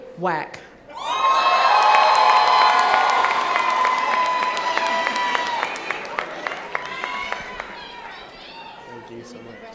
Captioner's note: cheering